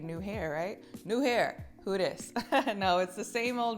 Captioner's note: chuckling